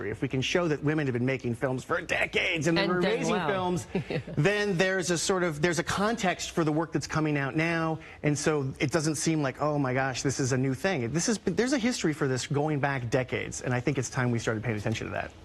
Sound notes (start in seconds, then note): 3.6 laughs